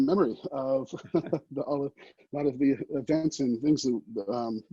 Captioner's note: chuckles